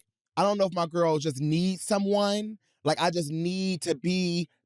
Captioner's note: none